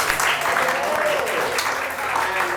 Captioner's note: applause